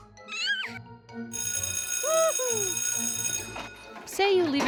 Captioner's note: bell rings